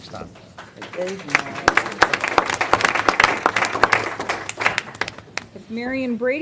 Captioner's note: applause